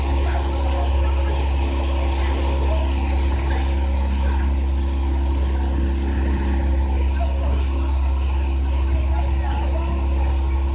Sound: water and engine running

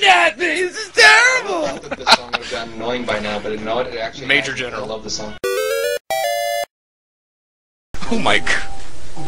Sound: LPer rambles on

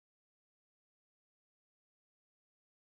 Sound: none

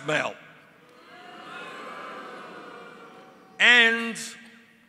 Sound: crowd booing

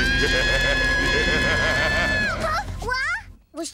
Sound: screaming; laughing maniacally

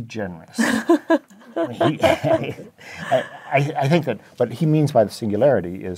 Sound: laugh

